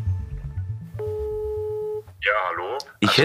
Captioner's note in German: Freizeichen